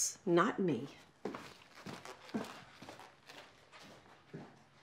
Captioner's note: footsteps crunching